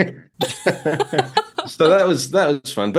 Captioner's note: both laughing